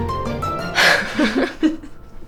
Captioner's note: laughs